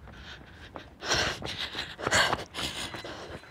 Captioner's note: heavy breath